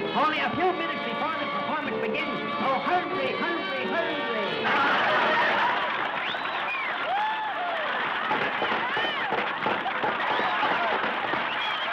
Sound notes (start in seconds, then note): 4.5 crowd cheering; 8.0 clapping